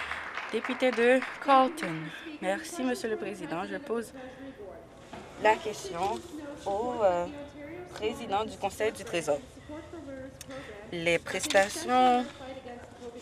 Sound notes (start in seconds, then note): 0.0 applause